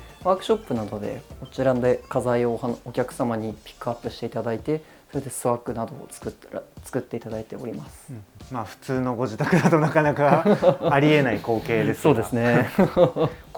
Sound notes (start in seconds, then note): 9.3 laughs; 12.2 laughter